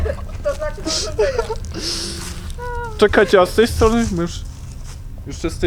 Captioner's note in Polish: śmiech